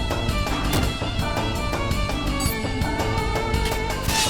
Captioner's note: blow thuds; sword clanks